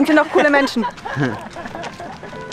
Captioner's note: laughter